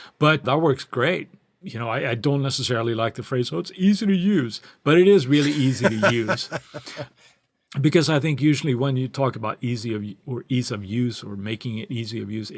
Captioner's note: laughter